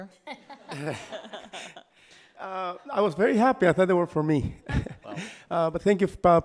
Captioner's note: laughs